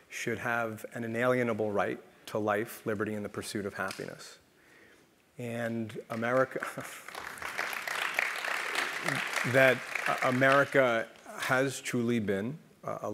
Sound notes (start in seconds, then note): 6.0 applause